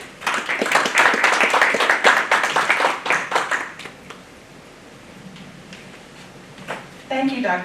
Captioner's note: applause